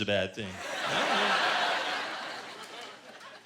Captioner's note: laughter